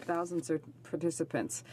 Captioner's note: speaking French